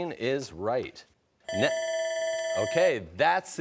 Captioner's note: timer rings